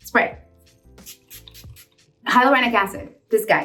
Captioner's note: gentle music; spray spritzing